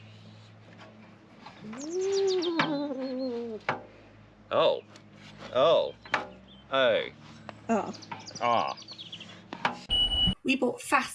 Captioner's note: special spinney seat noises